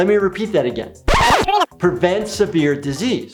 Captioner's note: image screeching